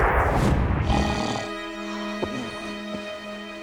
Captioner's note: snoring